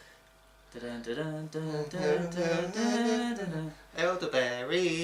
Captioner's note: humming